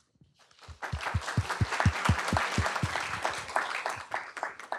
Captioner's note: applause